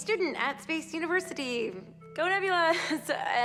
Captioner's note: chuckles